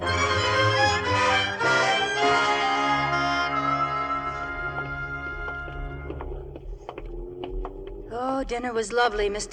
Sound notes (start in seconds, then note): 0.3 upbeat music; 4.0 footsteps